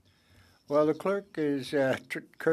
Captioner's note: speaking French